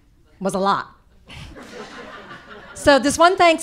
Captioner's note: audience laughing